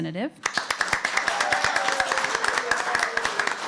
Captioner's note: applause